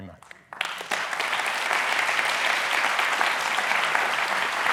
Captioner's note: applause